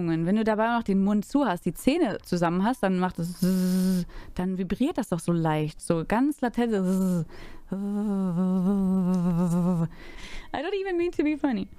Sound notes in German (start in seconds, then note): 3.8 szszsz; 6.7 ththththth; 8.2 szsz